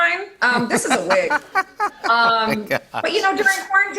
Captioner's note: laughter